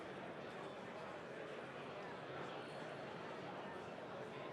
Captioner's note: speaking off mic